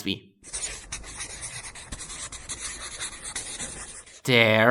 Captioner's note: scribbling sound